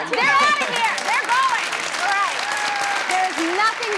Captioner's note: audience applauds